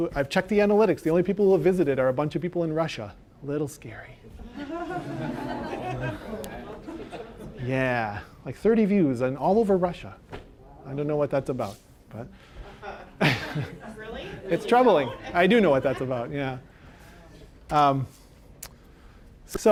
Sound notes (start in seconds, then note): 4.4 audience laughing; 12.5 laughing